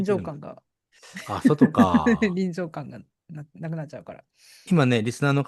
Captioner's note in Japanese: 笑い